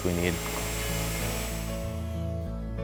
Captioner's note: router humming; mellow music